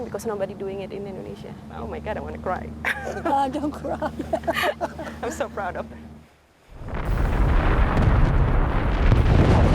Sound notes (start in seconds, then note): 2.8 laughs; 2.8 chuckles